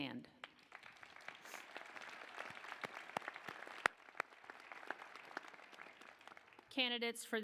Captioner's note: applause